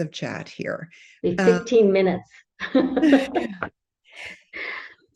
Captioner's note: laughs